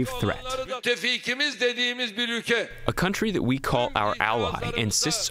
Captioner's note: through translator